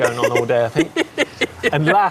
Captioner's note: laughs